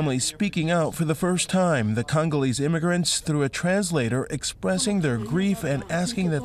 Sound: crowd chanting

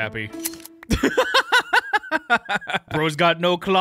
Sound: laughing

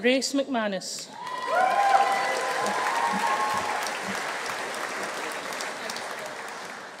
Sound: audience cheering; audience applauding

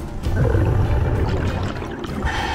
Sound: exhale; inhale

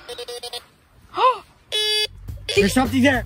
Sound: gasps; metal detector beeps; beep

